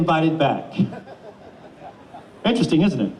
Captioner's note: audience chuckles